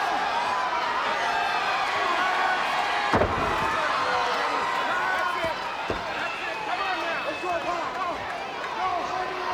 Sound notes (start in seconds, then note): 2.4 crowd cheering